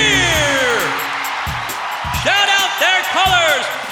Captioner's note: cheering